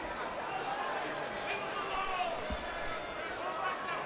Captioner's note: crowd murmuring